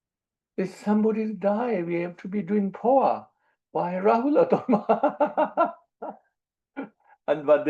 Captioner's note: laughs